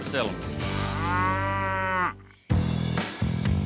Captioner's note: cow moos